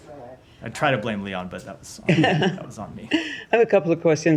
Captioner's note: laughter